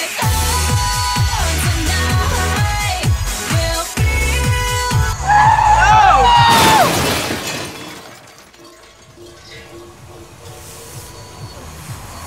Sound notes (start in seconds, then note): 5.1 screams; 5.2 tires squeal; 6.2 crash; 9.6 steam hissing; 12.1 music plays faintly